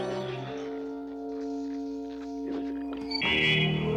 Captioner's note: squelching